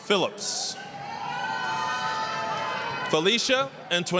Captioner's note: applause, cheering